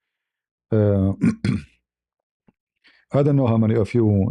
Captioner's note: berdehem